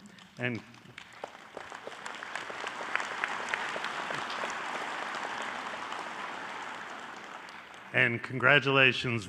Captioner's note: applause